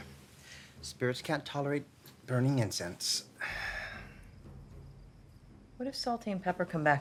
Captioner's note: sighs